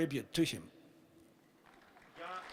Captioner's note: applause